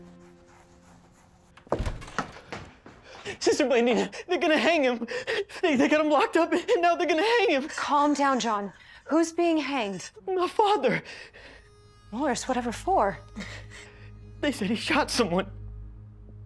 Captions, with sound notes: [DOOR OPENS] SISTER BLANDINA! THEY'RE GONNA HANG HIM. THEY GOT HIM LOCKED UP AND NOW, THEY'RE GOING TO HANG HIM! CALM DOWN, JOHN. WHO'S BEING HANGED? MY FATHER! MORRIS? WHATEVER FOR? THEY SAID HE SHOT SOMEONE.